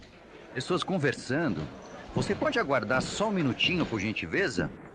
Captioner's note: people chattering